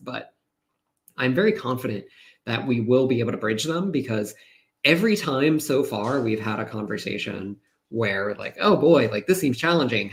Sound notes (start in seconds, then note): none